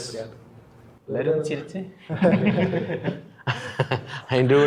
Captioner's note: laughing